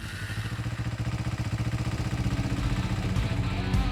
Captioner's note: motorbike revving; rock music